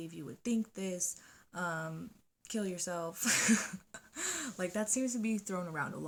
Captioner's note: laughs